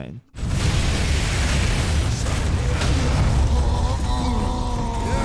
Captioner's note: loud battle sounds; characters grunting